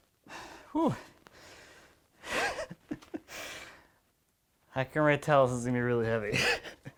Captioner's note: chuckles